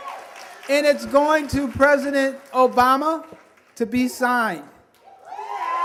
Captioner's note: applause